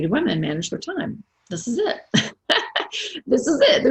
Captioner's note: laughs